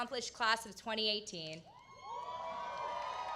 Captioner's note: applause